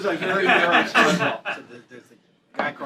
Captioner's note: laughter